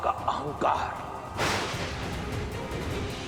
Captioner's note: thunder cracking